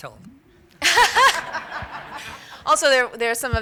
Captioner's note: laughter